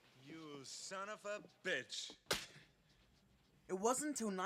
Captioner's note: slap